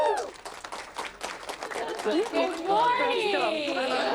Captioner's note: applause